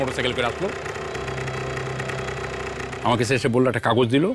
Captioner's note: sound of a motor engine